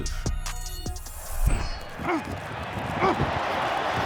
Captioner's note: crowd cheering